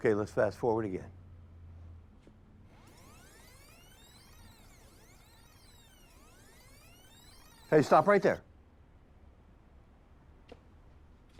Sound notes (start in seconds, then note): 2.7 videotape squelching